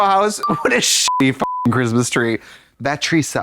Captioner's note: beep